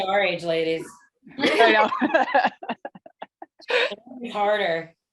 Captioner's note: laughter